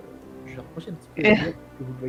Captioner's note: laugh